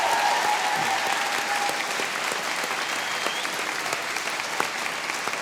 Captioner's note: applause; cheering and applause